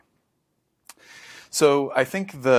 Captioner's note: lip smack; inhales deeply